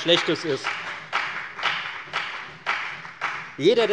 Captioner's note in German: Beifall bei der FDP